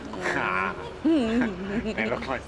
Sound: both laughing

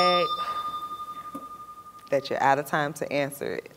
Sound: bell rings, time expires

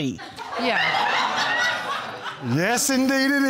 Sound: audience laughing

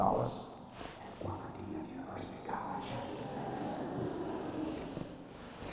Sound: whisper

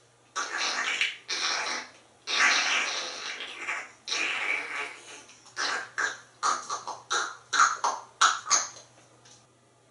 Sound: grackle Sounds

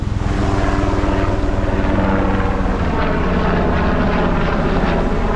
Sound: sound of helicopter engine

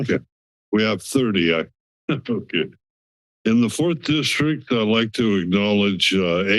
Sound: laughs

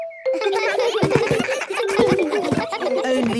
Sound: giggles

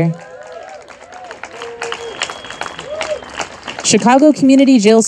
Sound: audience applauding and cheering

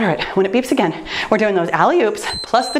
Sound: timer beeps

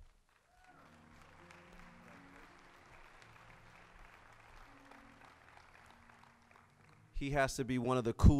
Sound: applause

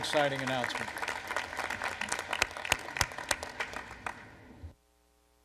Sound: applause

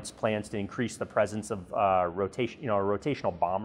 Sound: voiceover

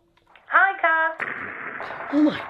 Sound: sounds of gun fire from telephone

